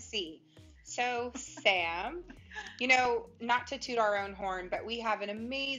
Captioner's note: laughter